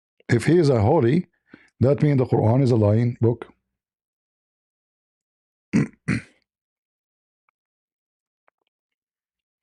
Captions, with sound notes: if he is a holy that mean the Quran is a lying book? [cough] [clears throat]